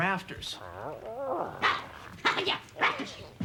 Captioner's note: Tasha babbles